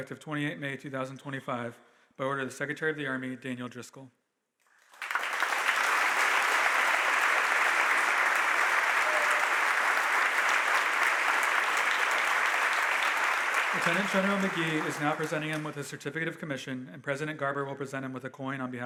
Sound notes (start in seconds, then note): 5.3 audience applauding